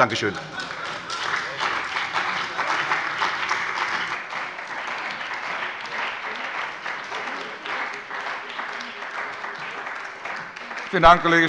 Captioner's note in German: Beifall bei der CDU und dem BÜNDNIS 90/DIE GRÜNEN - Zuruf von der FDP